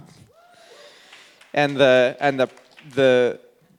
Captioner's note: audience clapping